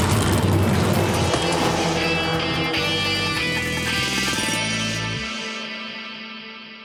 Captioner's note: engines revving; dramatic music; engine starting